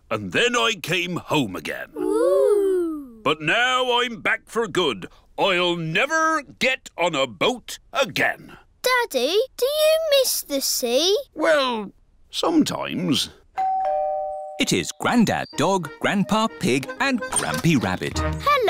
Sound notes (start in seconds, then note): 13.6 doorbell dings